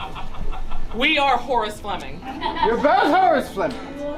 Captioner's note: laughter